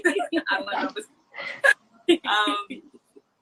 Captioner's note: laughs